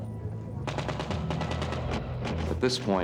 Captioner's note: gunshots